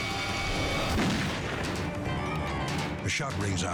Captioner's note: gunshot echoes